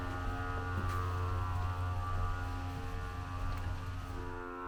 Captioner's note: dolly buzzing